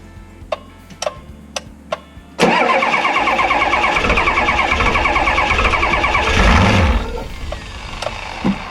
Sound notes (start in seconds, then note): 2.4 car engine struggling to start